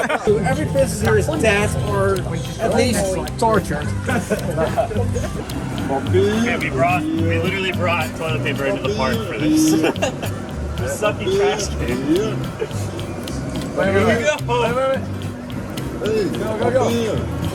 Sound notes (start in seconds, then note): 9.4 laughter